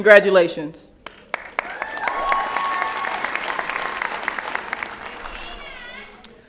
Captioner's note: applause